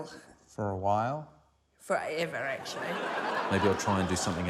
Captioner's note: laughter